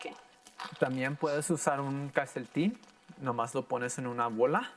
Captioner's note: in foreign language